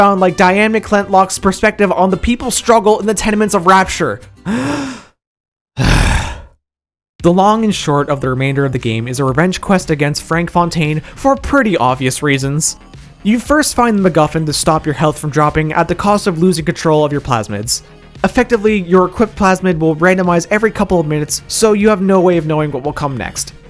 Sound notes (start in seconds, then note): 4.4 deep Breath